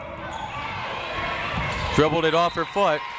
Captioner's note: crowd members shouting; whistle tweeting